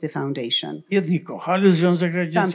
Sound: foreign language

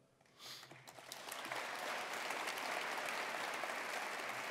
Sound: attendees applauding

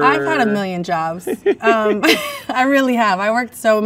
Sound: man laughs; laughs

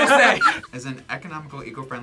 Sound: group laughs

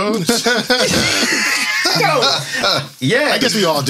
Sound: laughter

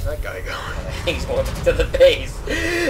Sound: laughs

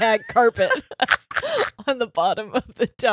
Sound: both laughing

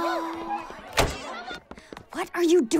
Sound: door slamming

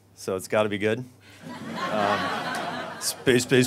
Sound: audience laughs

